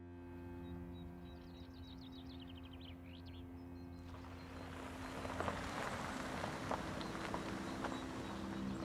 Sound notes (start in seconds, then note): 1.2 birds chirping; 4.0 truck whirring